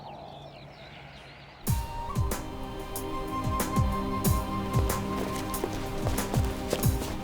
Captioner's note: Lex sighs; hip-hop music